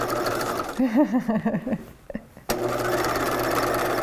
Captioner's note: laughs; machine whirring